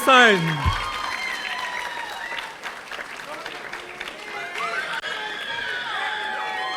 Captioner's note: audience cheering; audience applauding